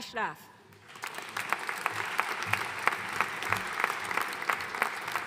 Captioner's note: audience applauding